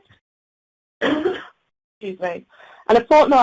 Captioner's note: coughing